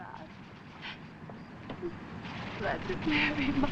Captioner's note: whimpers